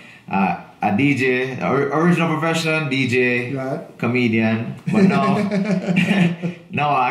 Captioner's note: laughing